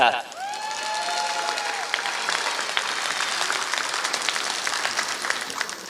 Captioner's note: applause